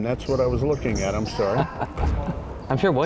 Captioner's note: chuckling